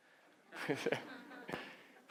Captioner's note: laughing